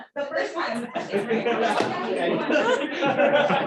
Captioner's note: laughter